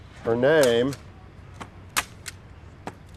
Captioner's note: none